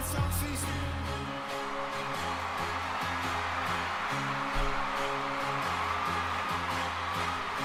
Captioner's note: audience cheers